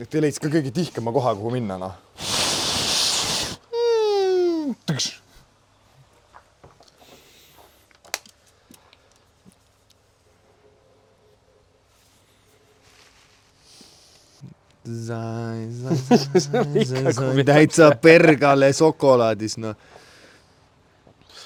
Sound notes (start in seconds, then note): 2.2 blows; 3.8 imitates falling noise